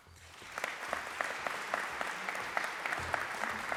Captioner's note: applause